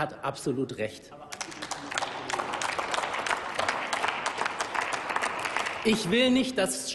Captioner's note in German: Applaus